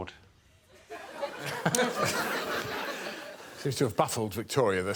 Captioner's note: audience laughing